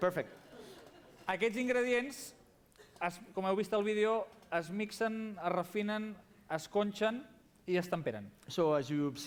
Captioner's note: non-english speech